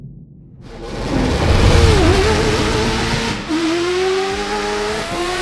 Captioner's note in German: Motor heult auf